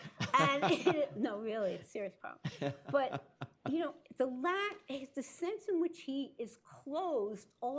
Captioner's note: laughter